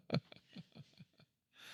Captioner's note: laughing